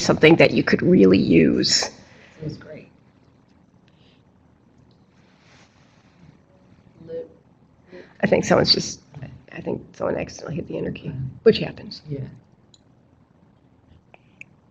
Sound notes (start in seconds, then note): 2.8 silence